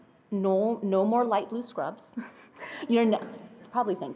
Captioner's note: chuckles